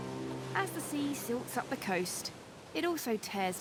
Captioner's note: waves sloshing